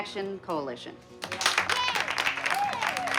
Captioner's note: clapping and cheering